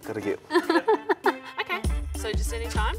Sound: laughs

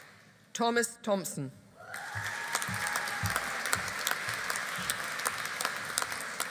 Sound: audience applauding

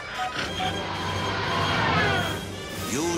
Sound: engines roaring

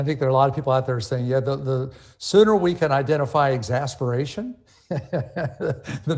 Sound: laughs

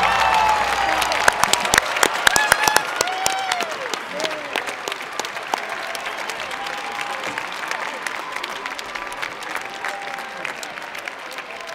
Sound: cheers and Applause

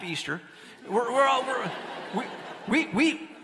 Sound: audience laughing

